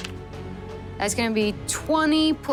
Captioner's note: dice rolling